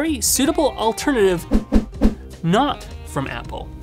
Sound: air whooshes

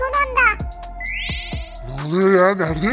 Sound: teleport sound

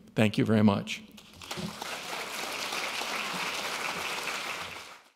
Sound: audience applauding

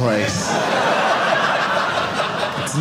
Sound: audience laughing

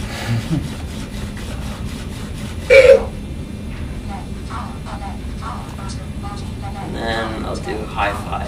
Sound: laughs

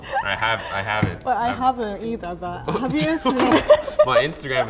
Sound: laughs

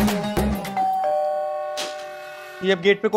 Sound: door bell rings

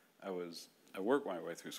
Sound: none

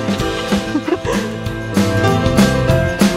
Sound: laughs; Lumi breathing heavily

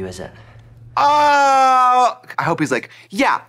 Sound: Trixie squalling

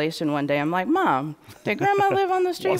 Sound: laughter

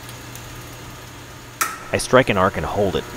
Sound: switch clicks, transformer hums

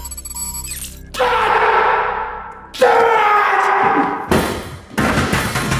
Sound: screams

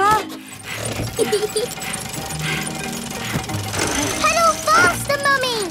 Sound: mummy pig panting; peppa laughing

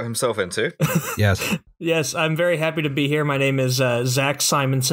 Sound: laughter

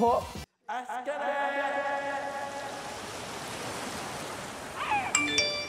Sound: waves flow, sea gulls squawk

